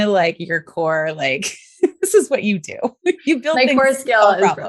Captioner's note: laughs